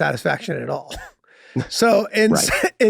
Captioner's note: Charlie laughing amusingly